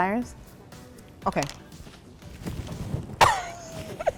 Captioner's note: coughs